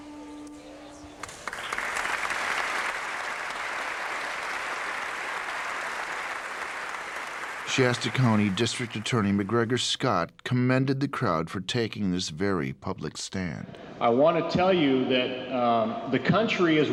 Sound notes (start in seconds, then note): 1.5 crowd clapping